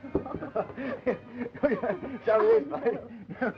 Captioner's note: laughing